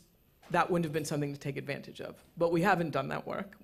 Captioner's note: none